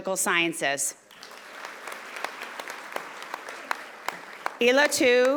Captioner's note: audience applauding